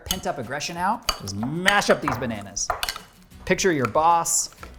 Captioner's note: bananas squishing